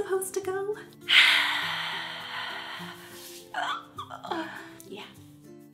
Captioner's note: dramatic sigh